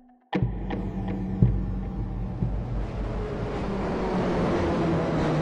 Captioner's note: soundbite of subway cars